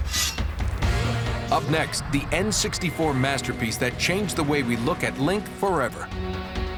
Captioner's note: blade slides